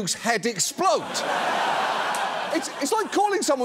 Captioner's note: audience laughs